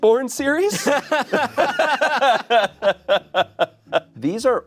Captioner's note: laughing